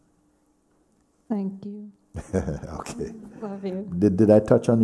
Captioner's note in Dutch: lacht